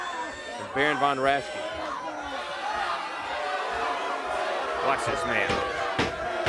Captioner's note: crowd cheering